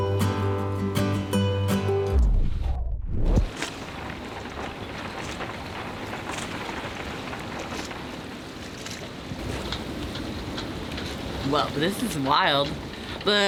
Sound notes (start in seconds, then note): 4.4 pattering rain